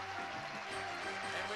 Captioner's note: audience applauding